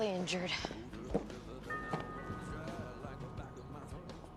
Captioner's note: rings doorbell